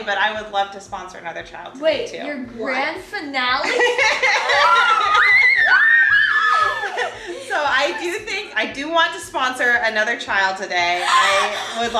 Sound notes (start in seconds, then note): 3.6 laughing and cheering